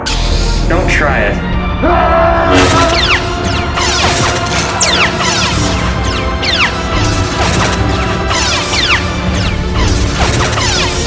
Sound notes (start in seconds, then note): 1.8 shouts